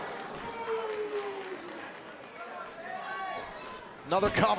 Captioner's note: crowd cheering